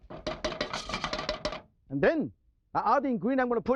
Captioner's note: spoon clangs